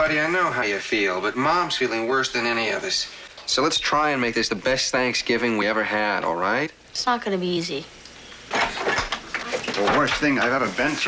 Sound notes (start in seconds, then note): 8.5 door opens